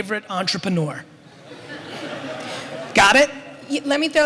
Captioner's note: audience laughter